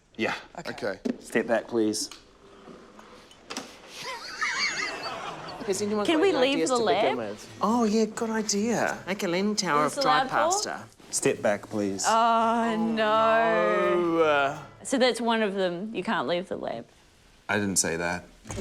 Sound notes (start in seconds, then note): 2.2 flicks switch; 2.4 fans whirr; 3.9 laughter